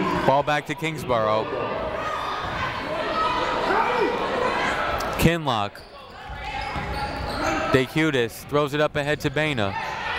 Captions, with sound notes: Fall back to Kingsborough. (people shouting in the crowd) Kinloch. D'Chiutiis throws it up ahead to Baena.